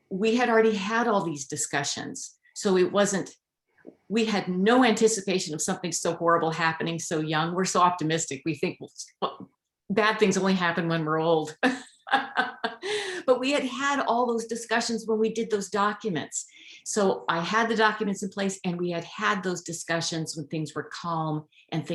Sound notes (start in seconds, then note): 12.0 laughs